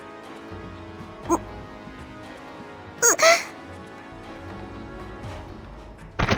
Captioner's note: gulp